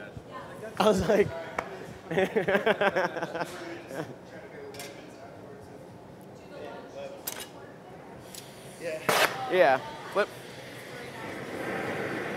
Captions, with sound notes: I was like (laughter). Yeah flip.